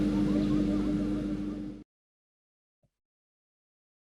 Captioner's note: silence